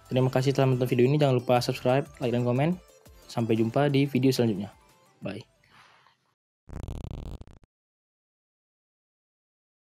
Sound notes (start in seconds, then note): 6.7 glitch SFX